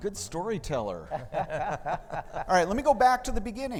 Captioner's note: laughing